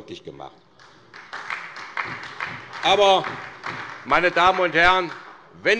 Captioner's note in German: Beifall bei der SPD